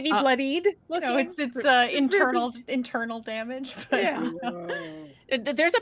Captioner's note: chuckles